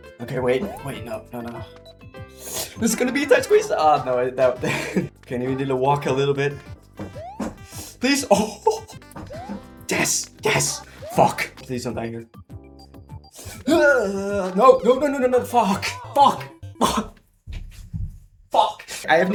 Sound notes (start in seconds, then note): 8.2 laughs